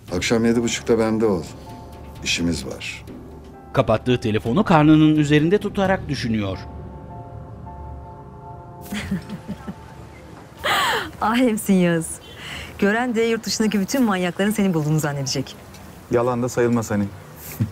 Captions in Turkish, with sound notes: Akşam yedi buçukta bende ol! İşimiz var. (Müzik - Gerilim) (Gülme sesi) Alemsin Yağız. Gören de yurt dışındaki bütün manyakların seni bulduğunu zannedecek. Yalan da sayılmaz hani.